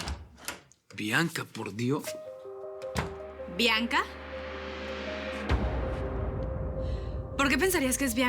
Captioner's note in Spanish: Sonido al abrir la puerta